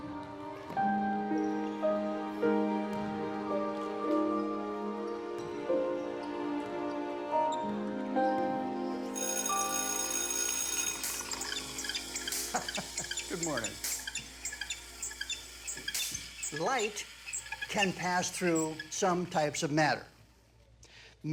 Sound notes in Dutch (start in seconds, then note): 9.1 schoolbel gaat; 12.5 grinnikt